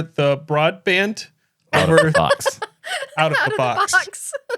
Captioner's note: laughing